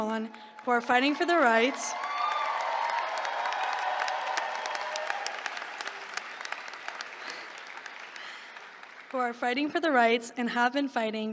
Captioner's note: applause